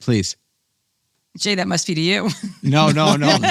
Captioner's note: laughing